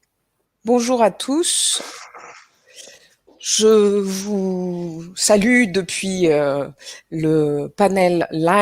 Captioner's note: in French